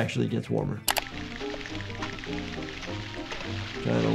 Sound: cheerful music; Tom's teeth chattering

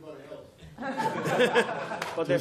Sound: laughter

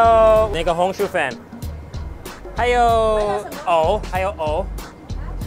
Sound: speaking in a foreign language

